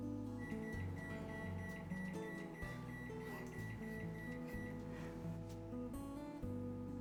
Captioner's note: microwave beeping; lighthearted music